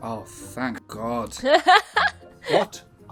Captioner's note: laughing